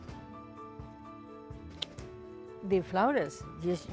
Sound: scissors snip

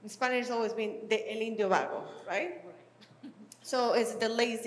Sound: speaking spanish

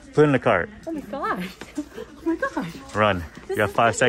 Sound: girlfriend laughs

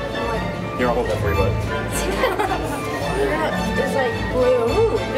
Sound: laughing

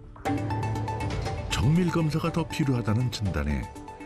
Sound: voiceover

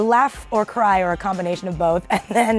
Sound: laughs

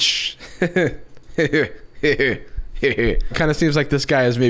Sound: evil chuckles

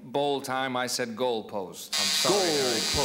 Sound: buzzing

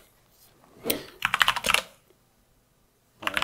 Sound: typing

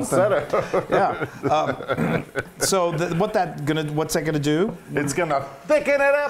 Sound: laugh

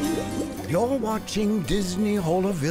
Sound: liquid bubbling

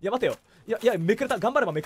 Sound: inhales

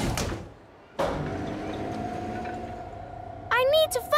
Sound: lift moving

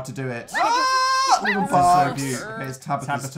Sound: incoherent squealing

